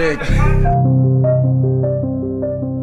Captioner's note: laughs